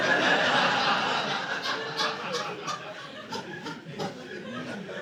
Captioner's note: audience laughing